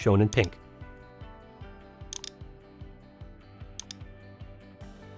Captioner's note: mouse clicking